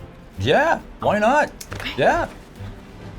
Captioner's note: whispers